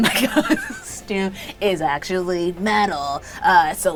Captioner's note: laughs